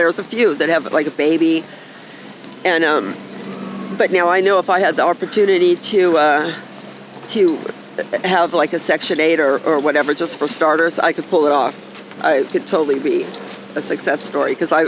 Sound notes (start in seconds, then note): none